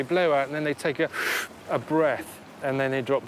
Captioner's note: inhales sharply